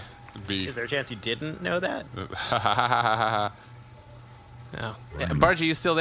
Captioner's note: laughs awkwardly